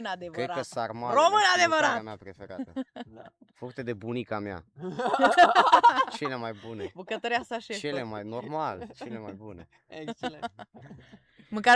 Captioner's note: everyone laughs